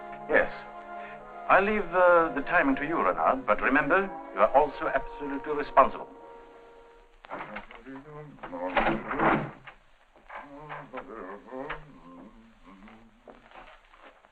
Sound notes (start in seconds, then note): 7.5 Gaston humming happily